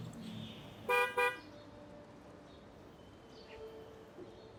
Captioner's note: horn honks